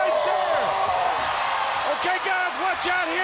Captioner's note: The Giant groaning